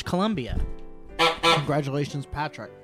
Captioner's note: two horn honks